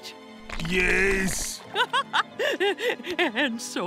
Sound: laughing

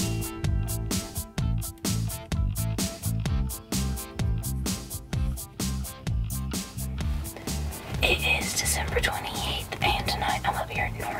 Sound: whispering

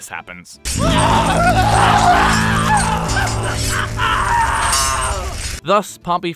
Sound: fire, screaming, general clamor and other such battlefield noises

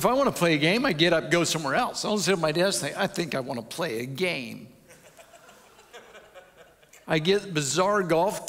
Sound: audience chuckles

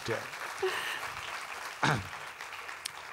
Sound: applause

